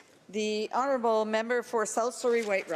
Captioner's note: speaking French